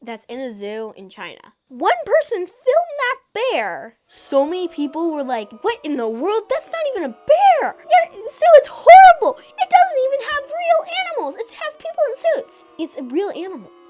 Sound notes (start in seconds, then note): 12.1 chorus of boos